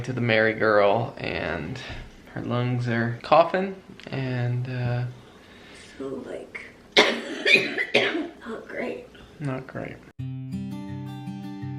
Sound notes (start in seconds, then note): 6.9 coughing